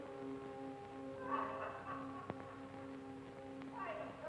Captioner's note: happy laughing